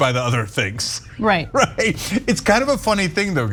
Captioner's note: laugh